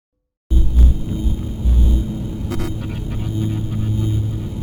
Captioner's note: electronic crackling